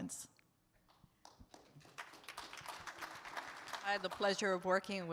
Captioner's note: audience claps